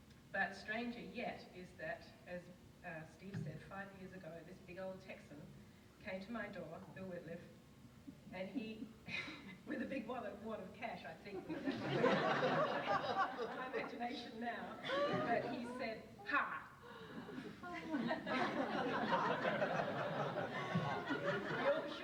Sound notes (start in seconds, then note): 8.8 laughs; 11.5 audience laughs; 18.8 audience laughs